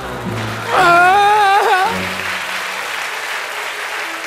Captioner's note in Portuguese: choro